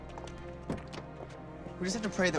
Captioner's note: door open close